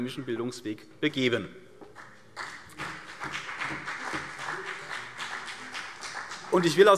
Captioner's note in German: Beifall CDU und BÜNDNIS 90/DIE GRÜNEN